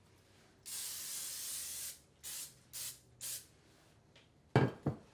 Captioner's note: spraying